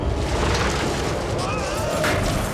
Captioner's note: guard screams